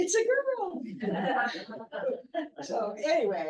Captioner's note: laughter